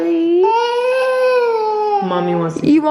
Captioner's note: cries